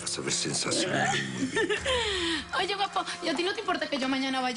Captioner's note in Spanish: Ella ríe